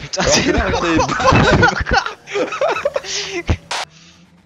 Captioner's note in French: rires